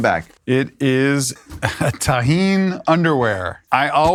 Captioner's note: laughs